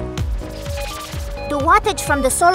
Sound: upbeat music; electronic beeping

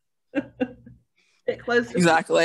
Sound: laughing

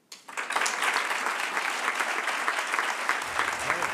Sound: applause

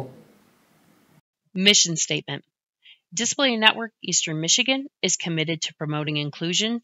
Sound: voiceover

